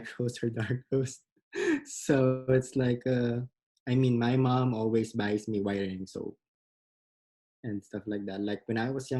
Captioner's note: laughs